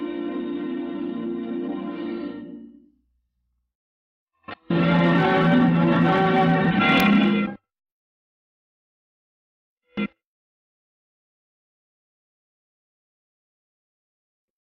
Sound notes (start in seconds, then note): 7.8 silence; 10.4 silence continuing